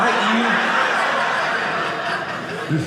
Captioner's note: audience laughing